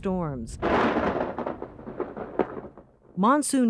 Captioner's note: thunder crashes